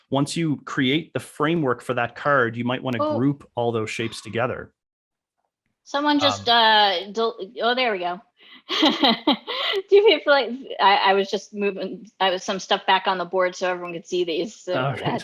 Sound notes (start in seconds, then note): 9.9 laughs